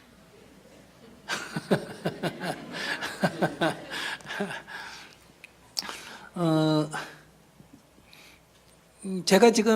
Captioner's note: /Audience Laughter